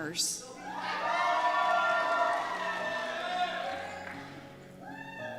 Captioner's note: cheers